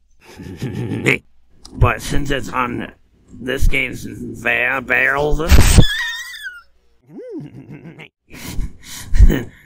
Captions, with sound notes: [Even more snickering] But since it's on the... This game's... Bear- barrel's of fun [Wheeze] [Slowly reemerging snickering]